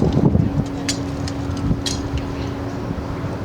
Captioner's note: armor clanking